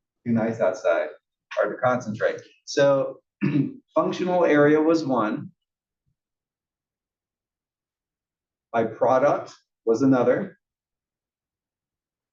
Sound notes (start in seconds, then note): 3.4 cough